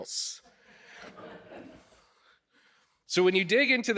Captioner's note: audience laughing